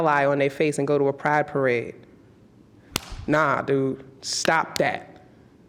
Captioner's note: slaps hand against hand